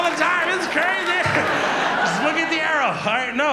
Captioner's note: audience laughs